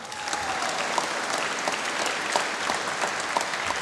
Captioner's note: applause